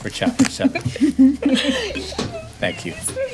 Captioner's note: laughing